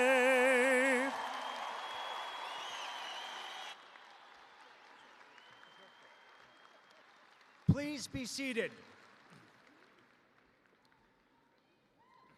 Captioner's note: cheers and applause